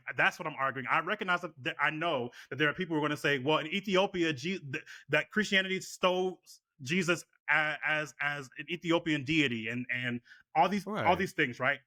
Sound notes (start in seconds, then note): none